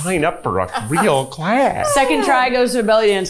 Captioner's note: chuckling